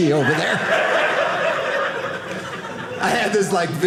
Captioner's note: audience laughing